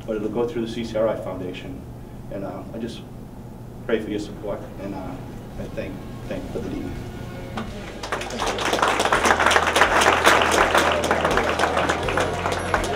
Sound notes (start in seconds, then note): 7.8 applause